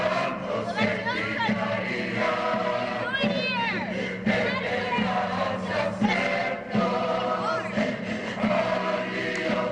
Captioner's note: girls taunting